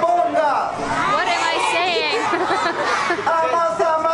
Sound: laughter

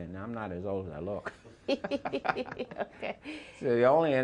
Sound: laughs

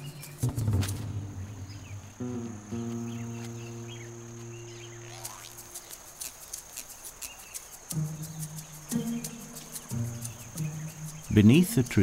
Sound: birds chirping, upbeat background music

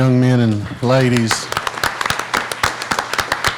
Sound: applauding

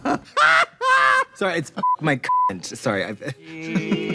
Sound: beep

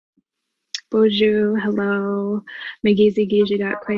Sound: speaking foreign language

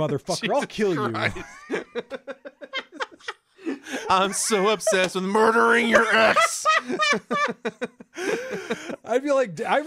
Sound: laughing; laughs

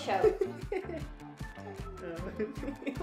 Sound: laughs

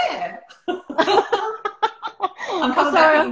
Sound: laughter

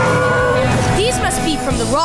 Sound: howling

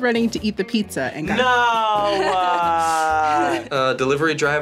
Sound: laughs

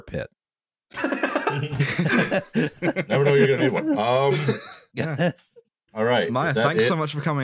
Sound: laughter

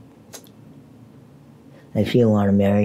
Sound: smacks lips

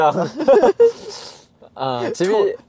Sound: haha

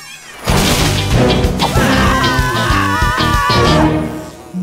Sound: all animals cheer; dramatic beat; all screaming

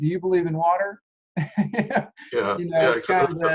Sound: laughs

